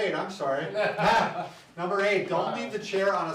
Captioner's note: men laugh